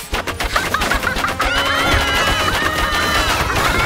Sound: screaming

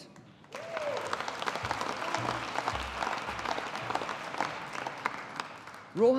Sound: audience applauding

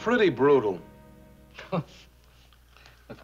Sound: chuckles

